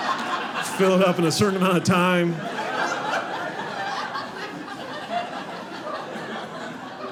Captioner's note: audience laughing